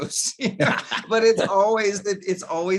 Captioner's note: laughing